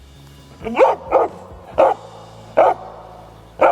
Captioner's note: dog barking